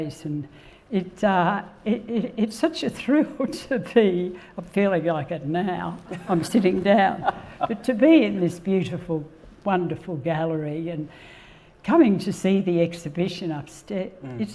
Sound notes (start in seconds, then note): 7.1 laughs